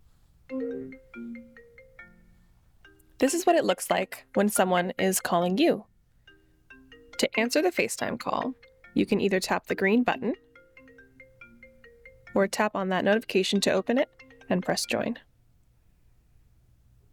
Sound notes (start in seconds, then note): 0.5 ringtone